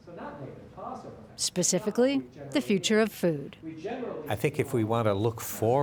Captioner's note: voiceover